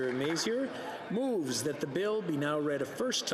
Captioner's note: some Applause